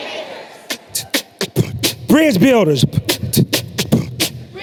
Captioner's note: beatboxing